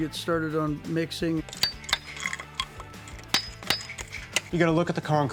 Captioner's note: metal clangs